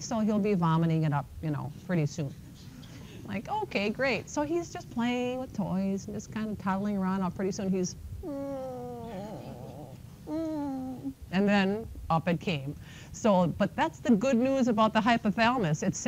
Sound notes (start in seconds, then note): 8.2 groans